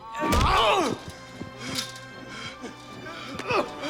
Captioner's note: both grunting